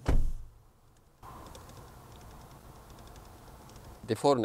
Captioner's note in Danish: klik-klik-klik